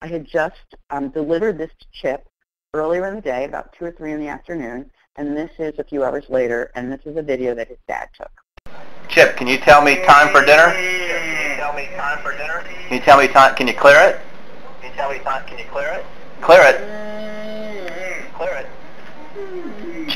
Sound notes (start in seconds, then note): 9.1 voiceover; 16.8 moaning